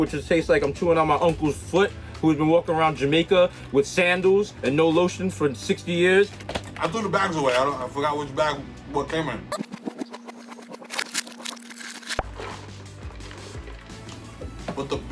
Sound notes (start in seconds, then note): 9.5 audio chirps as if rewinding; 12.4 pops